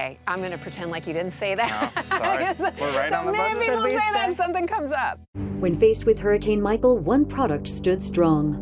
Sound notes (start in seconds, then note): 1.7 laughs